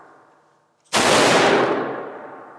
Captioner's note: gunshot